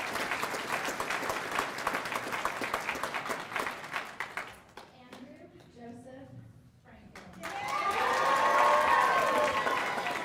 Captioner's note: cheers and applause